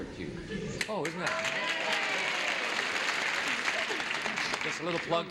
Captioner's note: applause